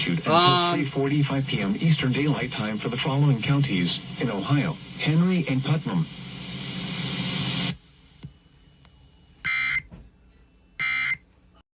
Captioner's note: EOM Tone